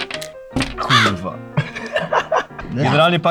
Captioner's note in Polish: śmiech